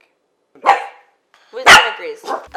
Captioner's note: dog barks